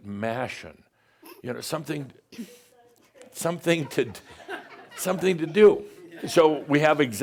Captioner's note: giggles; more giggles